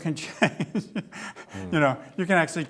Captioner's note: laughs